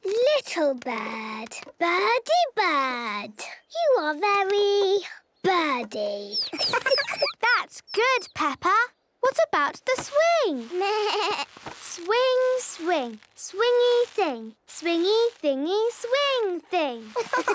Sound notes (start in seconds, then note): 6.1 tweets